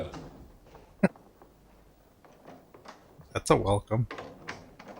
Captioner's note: chuckling